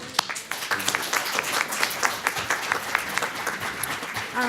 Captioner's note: applause